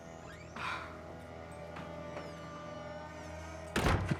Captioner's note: Robin gasps